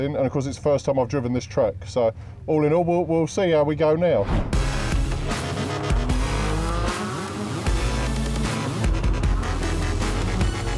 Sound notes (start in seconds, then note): 4.5 engines roaring; 4.5 upbeat electronic music